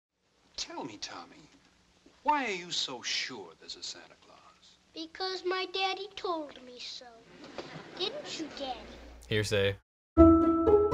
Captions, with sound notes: - Tell me Tommy, why are you so sure this is Santa Claus? - Because my daddy told me so. (courtroom laughing) Didn't you daddy? - Hearsay.